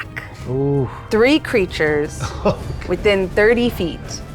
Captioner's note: chuckles